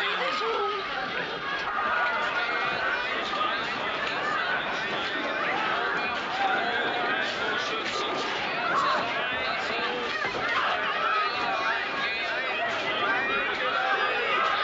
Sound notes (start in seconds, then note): 3.7 soldiers commanding and people yelling